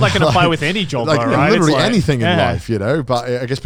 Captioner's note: laughs